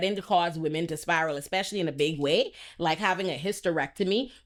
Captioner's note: none